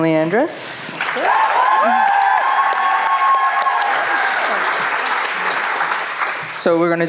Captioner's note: applause